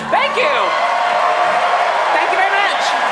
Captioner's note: applause